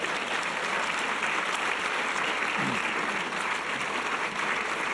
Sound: audience applause

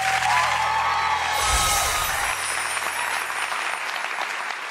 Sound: audience claps; shimmering

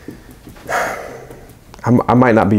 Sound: sighs

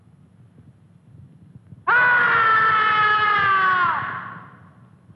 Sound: scream

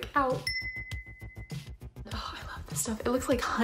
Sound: chimes

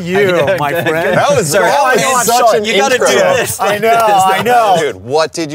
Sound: group talking excitedly

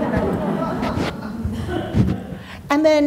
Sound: audience laughs

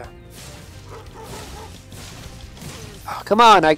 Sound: dog barks

